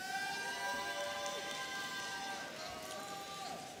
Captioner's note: audience cheering